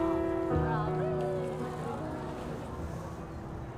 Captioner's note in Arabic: ثرثرة في الخلفية